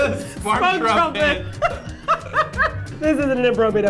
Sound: laughter

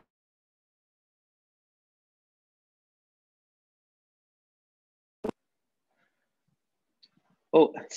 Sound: silence

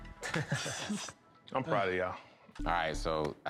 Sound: laughter

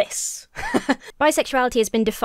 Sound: chuckles

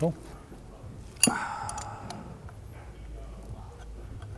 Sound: sighs

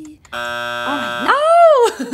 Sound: buzzer beeping

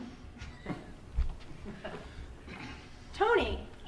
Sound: laughing

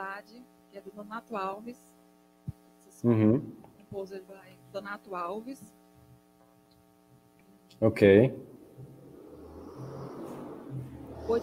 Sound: speaking in Portuguese

